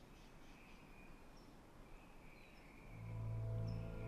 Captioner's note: bird chirp